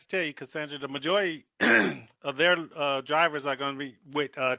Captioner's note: coughs